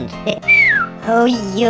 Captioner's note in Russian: свистит